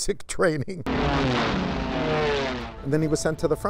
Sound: jet engine revving

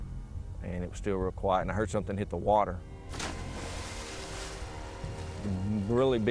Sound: water splashes

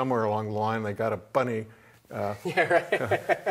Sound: laughing; laughs

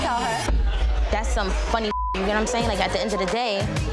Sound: beep

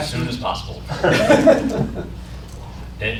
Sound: laughter

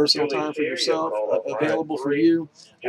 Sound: voiceover announcement in background

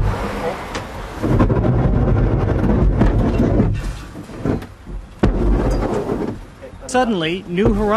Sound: basket scraping ground

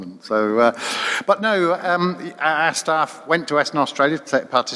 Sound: voiceover

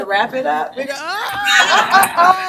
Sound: scream

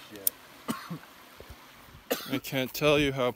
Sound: coughing

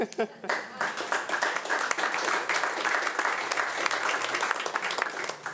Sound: audience applauding

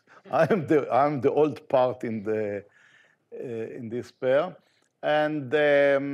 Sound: laughs; audience laughing

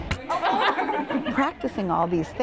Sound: students laugh

